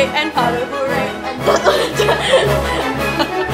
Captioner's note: marking the choreography and giggling